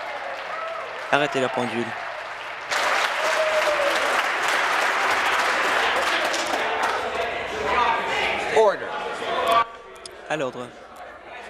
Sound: some Applause

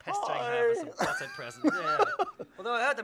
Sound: laughs

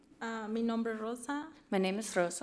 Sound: speaks foreign language

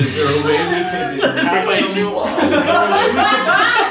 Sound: laughing

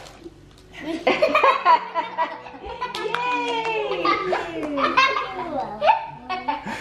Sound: kids laughing

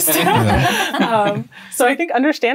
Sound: laughing

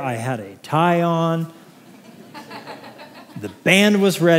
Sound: laughter

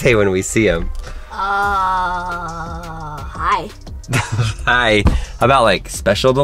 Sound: laughs

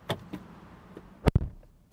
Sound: door Thud

